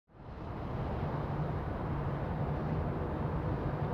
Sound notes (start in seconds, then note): 0.1 ambient traffic noise